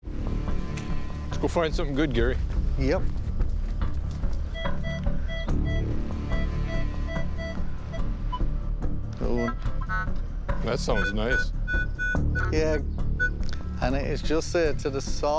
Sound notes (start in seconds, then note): 4.4 beeping